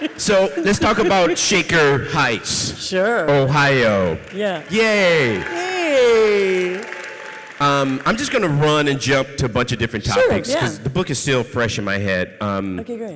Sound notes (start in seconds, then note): 6.4 audience cheering